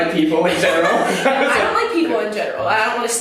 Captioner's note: both laughing